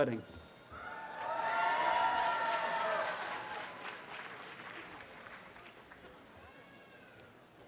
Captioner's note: audience applause